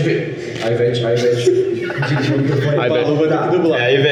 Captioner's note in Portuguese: Risadas